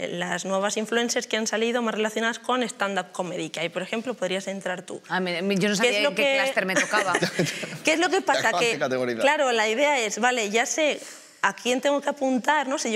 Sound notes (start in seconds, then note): 6.8 some laugh